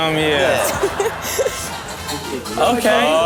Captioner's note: Chanel laughing